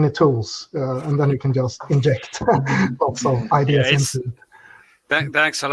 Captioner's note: laughter